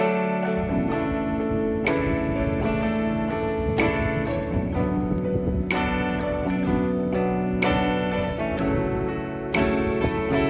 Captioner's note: cicadas shrill